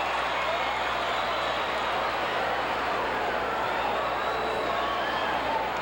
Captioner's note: audience chattering